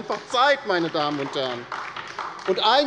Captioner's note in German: Beifall bei der LINKEN